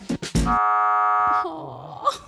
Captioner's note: elimination buzzer